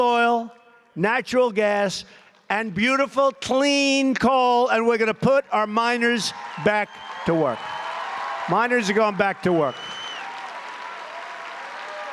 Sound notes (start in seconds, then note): 9.9 applause